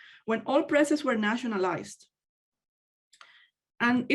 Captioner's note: none